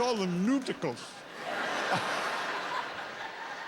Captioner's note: laughter